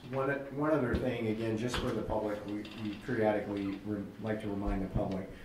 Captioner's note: none